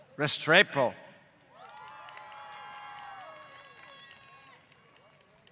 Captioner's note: applause